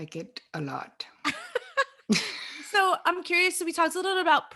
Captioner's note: laughs